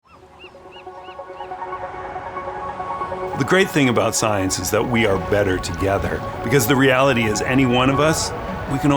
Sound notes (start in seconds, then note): 0.0 birds chirping; 0.6 bright music